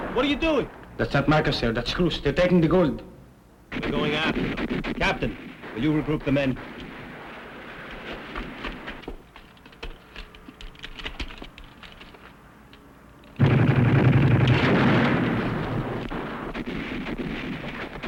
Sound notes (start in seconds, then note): 13.4 gunfire